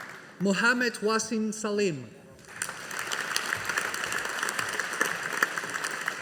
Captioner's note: audience applauding